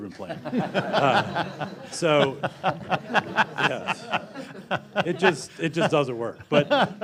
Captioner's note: laughter